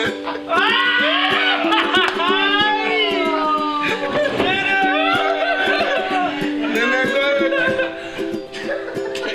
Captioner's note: more laughing, cheering